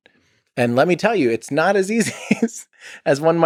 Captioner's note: Tim laughs